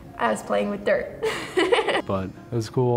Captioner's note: laughs